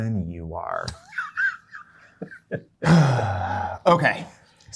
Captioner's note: guy laughing; sighing